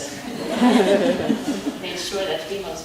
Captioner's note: all chuckle